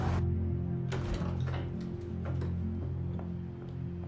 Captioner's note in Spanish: Ruido al abrir la puerta